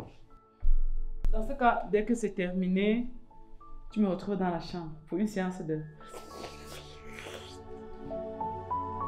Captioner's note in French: Bruits de bouche